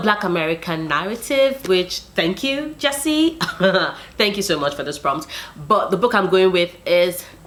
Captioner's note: laughs